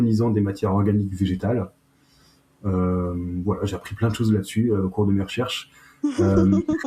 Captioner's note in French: rires